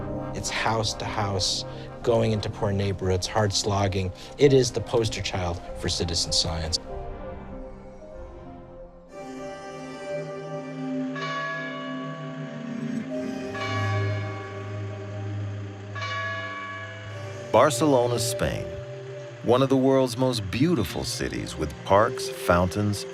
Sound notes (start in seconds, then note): 10.9 bell tolling